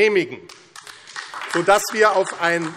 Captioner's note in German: Beifall AfD